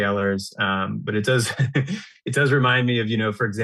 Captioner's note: laughs